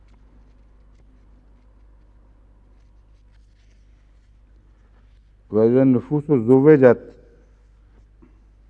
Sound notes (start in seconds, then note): 5.3 Arabic